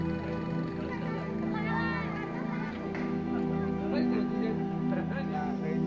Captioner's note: speaking foreign language